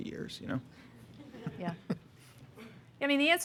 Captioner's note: laughter